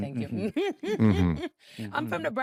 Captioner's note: laughing